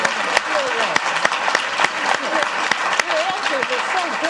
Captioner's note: applause